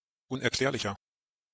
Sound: fast Pronunciation

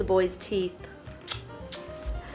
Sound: kiss

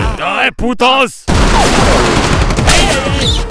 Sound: gunfire

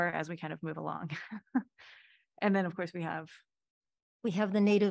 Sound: laughter

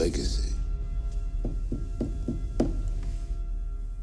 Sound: knocking on table

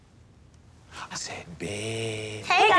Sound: whispering

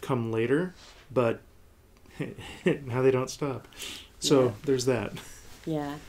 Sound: laughing

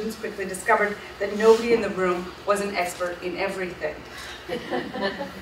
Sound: audience laughs

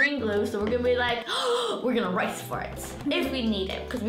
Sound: gasps

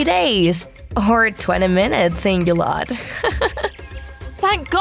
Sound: chuckles

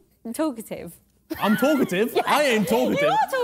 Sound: lady chuckles

